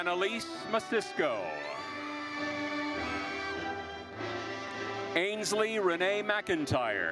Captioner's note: audience cheering and applauding